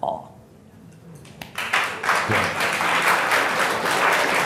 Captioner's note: crowd clapping